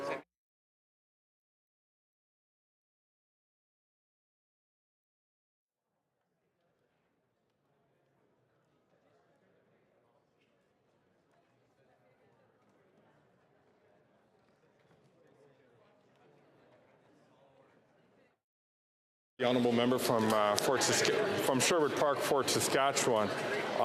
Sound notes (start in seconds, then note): 5.4 muted